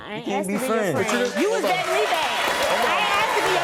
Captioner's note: audience clapping; audience cheering